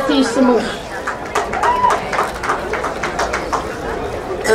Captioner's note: crowd applauding